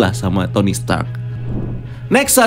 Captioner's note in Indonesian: suara transisi